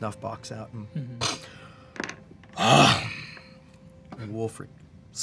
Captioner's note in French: renifle